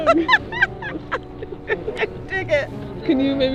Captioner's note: laughs